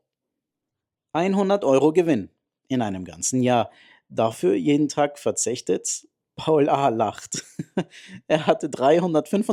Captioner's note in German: gelächter